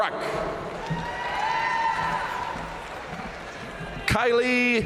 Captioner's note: audience cheering and applauding